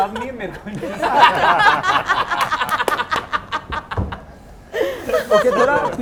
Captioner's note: laughs